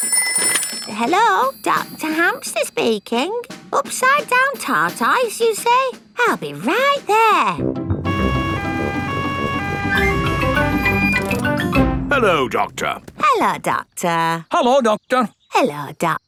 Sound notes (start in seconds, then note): 0.0 ringing; 8.0 siren wailing